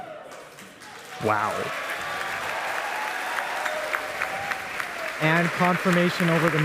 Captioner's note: applause